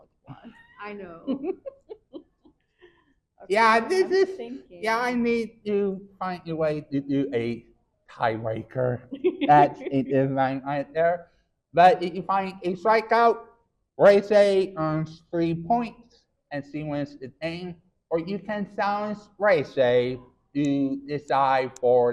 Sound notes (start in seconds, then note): 3.5 chuckles; 9.4 chuckles